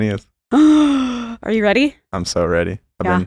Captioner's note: deep breath